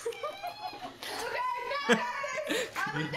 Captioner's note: cringe laughing